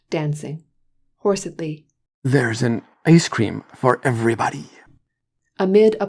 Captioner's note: hoarsely